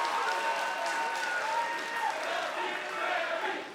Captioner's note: cheers & applause; fans chanting